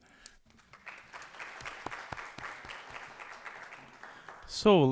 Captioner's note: applause